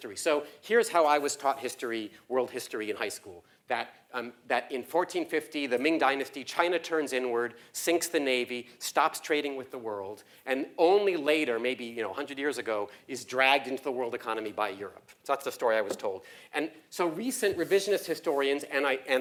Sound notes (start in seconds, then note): none